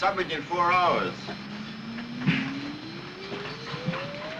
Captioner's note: computer whirring